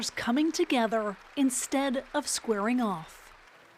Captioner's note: applause